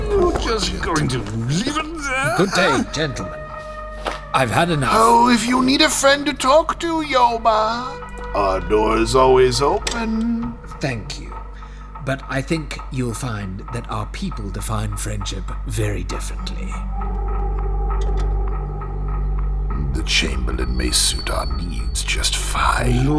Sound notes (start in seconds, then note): 5.3 condescending; 16.9 sound of door opening, then closing